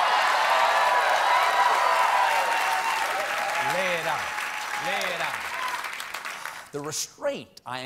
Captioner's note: cheers and applause